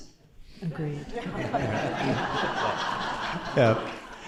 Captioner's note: laughter